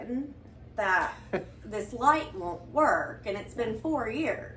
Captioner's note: chuckles